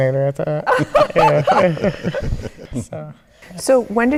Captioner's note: laughing